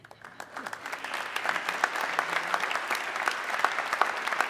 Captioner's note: audience clapping